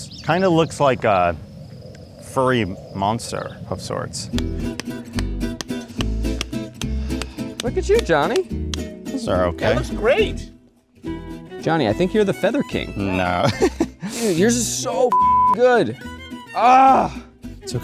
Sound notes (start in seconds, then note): 4.2 upbeat guitar music; 13.2 laughs